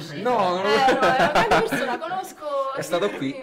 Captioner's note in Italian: Risate